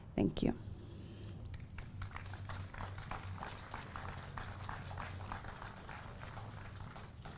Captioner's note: applause